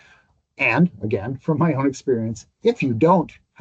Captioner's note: laughs